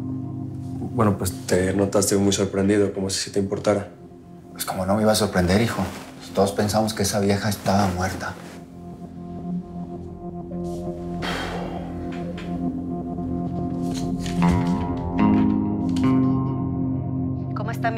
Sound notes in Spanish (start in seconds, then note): 11.2 Resoplido